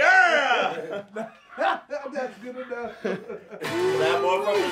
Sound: laughter

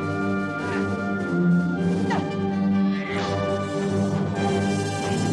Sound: slow, tense orchestral music; hitting; yelling

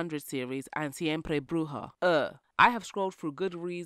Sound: ugh

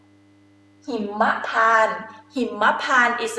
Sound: talking in foreign language

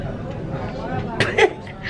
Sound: chuckles

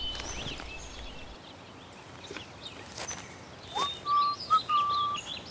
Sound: whistling

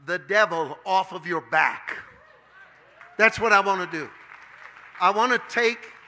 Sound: congregation applauds

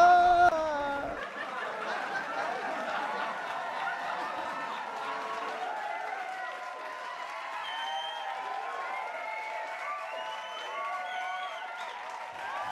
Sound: crowd cheering and clapping

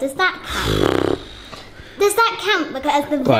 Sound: blows raspberry

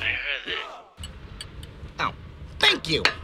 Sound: voiceover

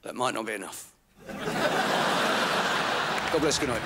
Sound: crowd laughs

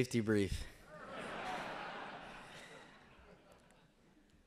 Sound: laughter

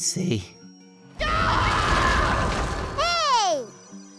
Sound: the loudest scream ever

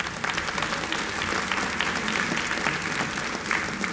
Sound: applause

